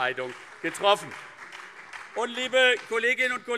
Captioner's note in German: Beifall CDU, SPD und BÜNDNIS 90/DIE GRÜNEN